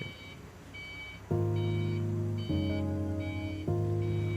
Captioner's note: forklift beeping